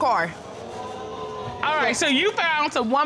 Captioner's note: audience exclaiming